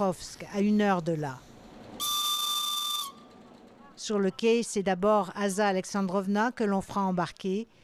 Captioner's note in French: sifflement du train